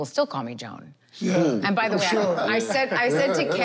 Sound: laughter, chatter

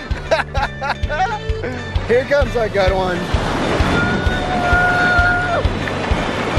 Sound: laughter

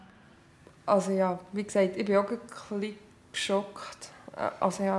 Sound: none

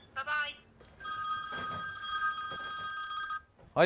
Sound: phone ringing

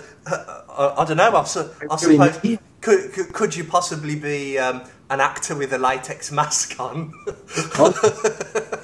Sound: laughs

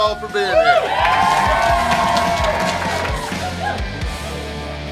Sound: cheering & Clapping

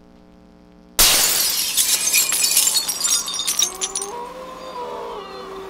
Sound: window glass shatter

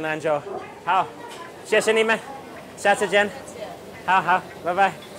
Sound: speaks in Chinese

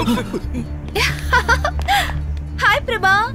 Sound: laughs

